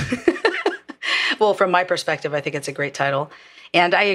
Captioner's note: laugh